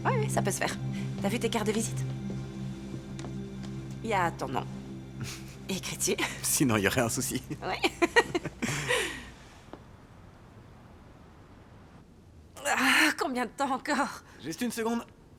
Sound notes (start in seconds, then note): 5.2 chuckling; 7.2 laughing